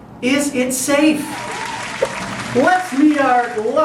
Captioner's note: applause